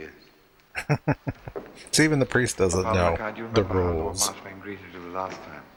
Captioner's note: chuckling